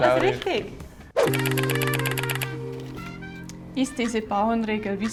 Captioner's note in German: tippen einer Schreibmaschine